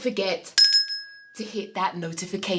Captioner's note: bell rings